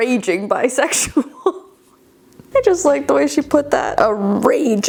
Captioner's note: laughing